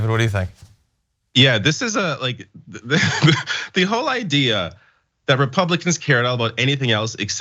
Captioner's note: laugh